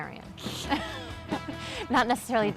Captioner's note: laughs